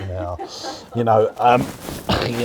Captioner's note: laughs